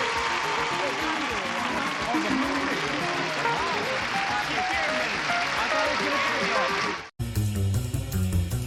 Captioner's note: applause